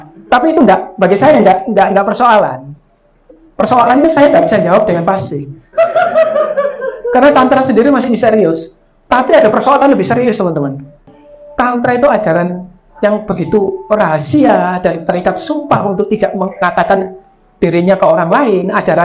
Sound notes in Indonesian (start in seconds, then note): 5.7 audiens tertawa